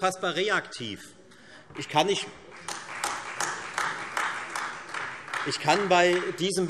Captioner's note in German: Beifall Freie Demokraten und AfD